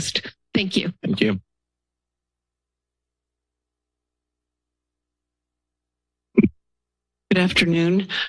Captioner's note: silence